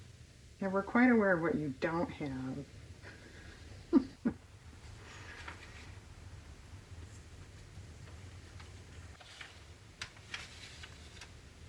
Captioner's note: laughs